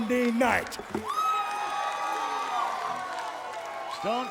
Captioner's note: audience cheering